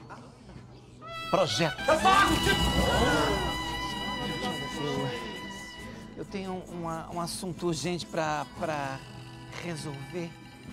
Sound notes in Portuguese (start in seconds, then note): 1.7 Baltazar elevando a voz